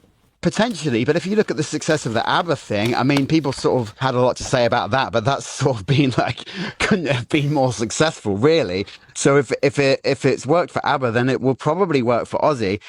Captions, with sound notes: Potentially, but if you look at the success of the ABBA of had a lot to say about that, but that's sort of [laughs] been, like, have been more successful, really. So if, if it, if it's worked for ABBA, then it will probably work for Ozzy.